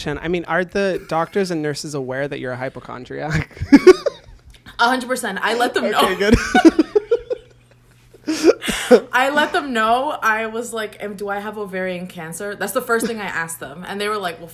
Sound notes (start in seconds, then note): 3.3 laughs; 5.6 both laugh